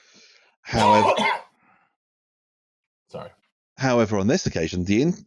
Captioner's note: coughs loudly